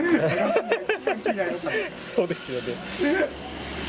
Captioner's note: laughs